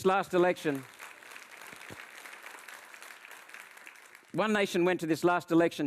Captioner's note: audience applauds